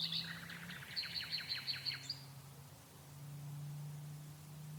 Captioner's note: birds chirping